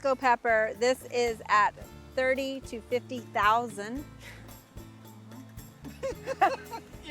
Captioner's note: chuckles